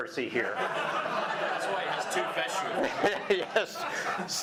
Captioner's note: audience laughing